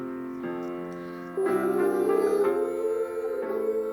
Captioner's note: students humming